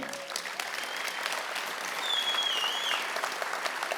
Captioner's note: audience clapping